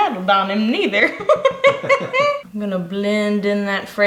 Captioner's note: laughing